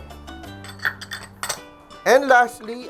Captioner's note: clink